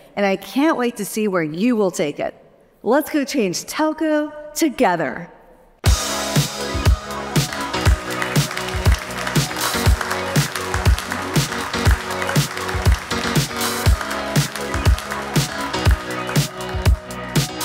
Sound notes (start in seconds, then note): 6.7 upbeat music; 8.5 crowd claps